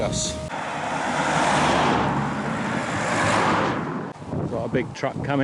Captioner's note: Traffic